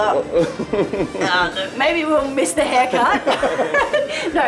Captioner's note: chuckles